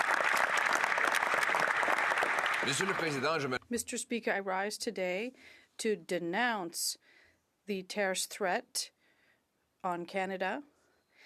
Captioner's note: cheers and applause